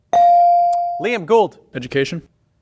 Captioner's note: bell ring